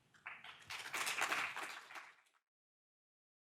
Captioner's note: audience applauding